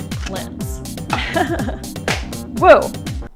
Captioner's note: giggles